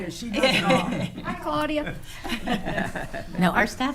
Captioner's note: attendees laughing